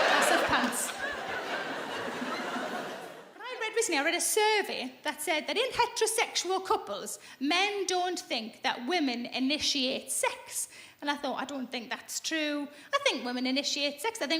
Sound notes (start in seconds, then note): 0.0 laughing